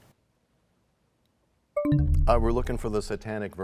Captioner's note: bell chimes, time expires